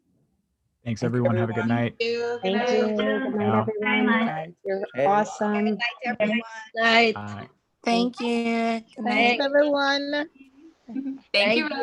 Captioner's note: communal goodbyes